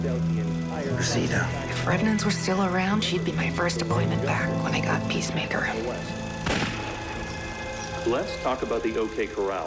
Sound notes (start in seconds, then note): 6.4 gunshot